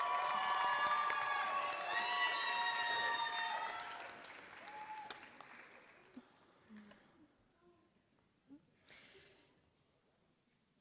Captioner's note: applause